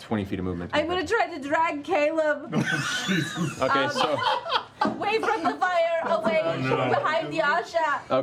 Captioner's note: tearily